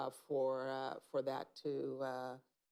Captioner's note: none